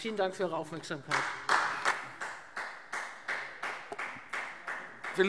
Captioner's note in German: Beifall Freie Demokraten